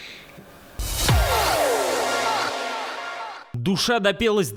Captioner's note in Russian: бамс!